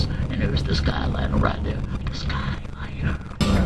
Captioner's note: whispers